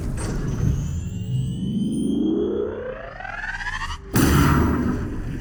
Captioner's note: tone rising; explosion